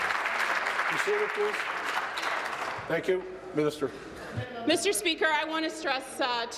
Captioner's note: applause